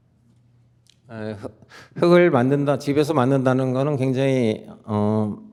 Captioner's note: speaking in Korean